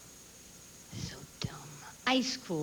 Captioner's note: whispers